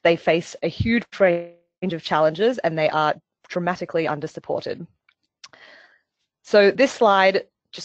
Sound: audio static

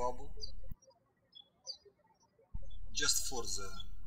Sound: birds chirping

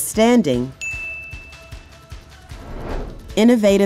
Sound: bell Rings

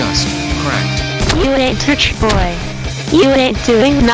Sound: stomping

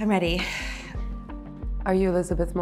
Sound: exhales

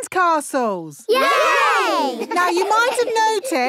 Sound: laughing

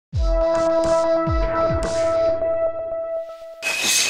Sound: electronic shimmer

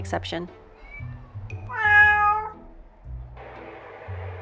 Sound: cats meowing

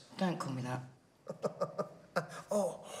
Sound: chuckles

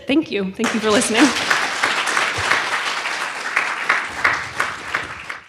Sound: audience applauds

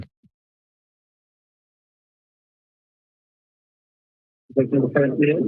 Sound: silence

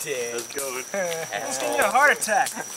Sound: chuckling

